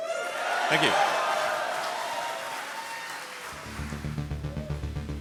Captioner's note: audience cheers; upbeat techno music